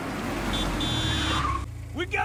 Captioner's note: car horn